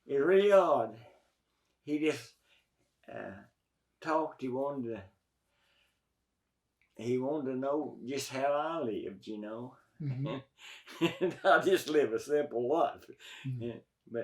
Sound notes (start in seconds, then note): 10.0 laughs